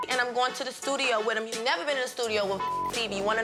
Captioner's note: beep